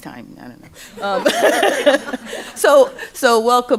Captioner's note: laughter